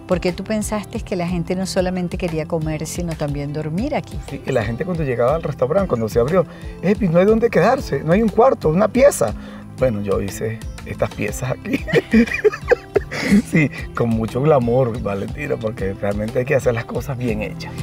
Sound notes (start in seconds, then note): 11.8 laugh